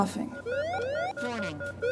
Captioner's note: alarm ringing